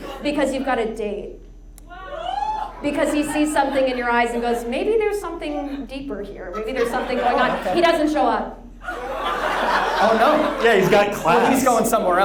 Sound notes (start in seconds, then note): 2.0 audience cheers; 8.8 audience laughs